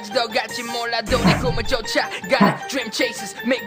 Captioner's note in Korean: 하- 하!